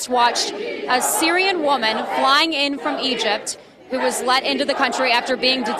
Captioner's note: crowd chanting